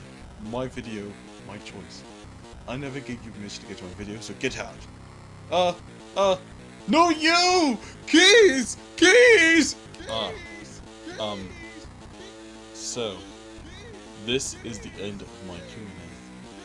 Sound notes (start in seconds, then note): 9.9 kid shouts in background